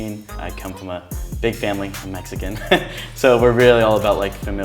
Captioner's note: laughs